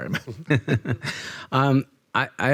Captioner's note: all chuckling